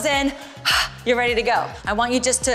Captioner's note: exhale